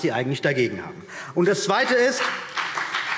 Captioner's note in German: Beifall CDU und BÜNDNIS 90/DIE GRÜNEN